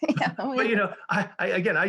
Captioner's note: laughs